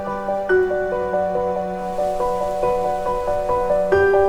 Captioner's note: wind is blowing